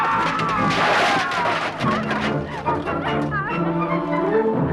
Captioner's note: guards screaming; armor clattering